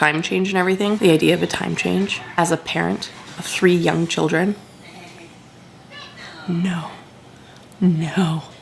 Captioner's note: background TV